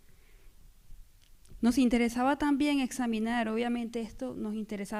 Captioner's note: speaking spanish